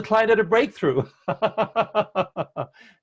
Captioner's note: chuckle